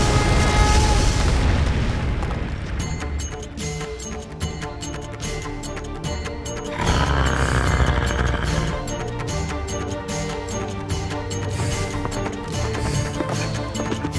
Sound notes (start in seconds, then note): 6.8 screams